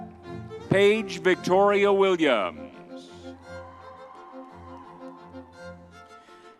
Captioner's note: crowd cheering